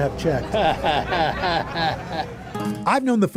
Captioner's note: chuckles